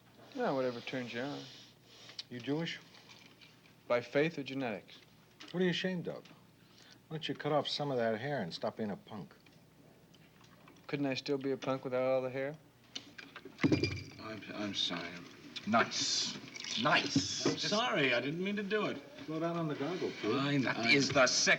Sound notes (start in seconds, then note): 13.6 glass clink